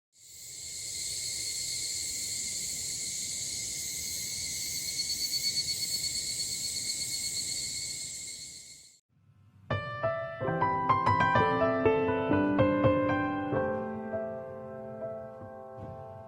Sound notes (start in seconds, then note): 0.2 singing of the cicadas called Higurashi